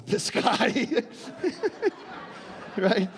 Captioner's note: laughing